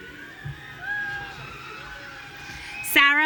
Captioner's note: audience cheering